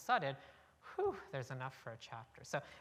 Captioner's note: exhales